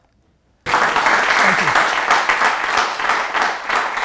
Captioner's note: audience applause